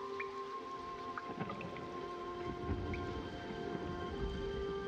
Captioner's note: thunder roaring